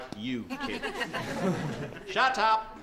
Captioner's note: students laugh